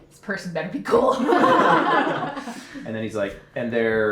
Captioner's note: all laughing